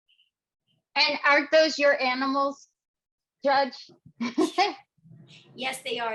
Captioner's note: laughing